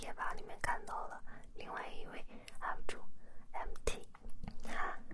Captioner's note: Mandarin Whispers